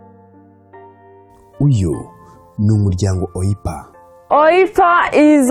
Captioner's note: speaking in Kinyarwanda